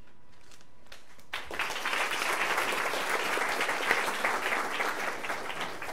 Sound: applause

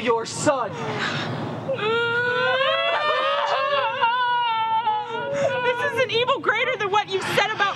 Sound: crying

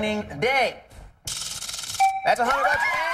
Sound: chime

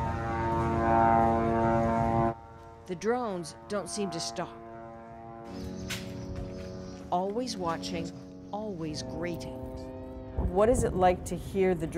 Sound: buzzing noise

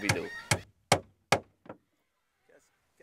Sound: hammer hitting wood

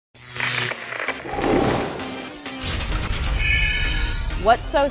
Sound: sound Effects

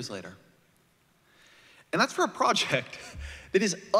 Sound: laughter

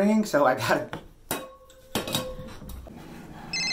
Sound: tin phone clanging; phone ringing

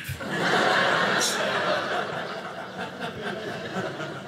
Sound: audience laughing

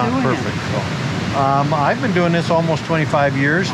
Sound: rapids crashing

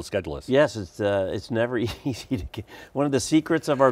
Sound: laughs

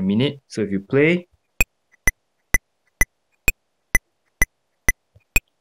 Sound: metronome sound

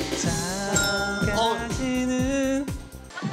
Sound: the sound of the bell ringing mercilessly

